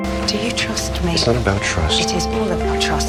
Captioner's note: voiceover